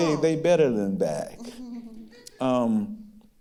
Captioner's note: giggling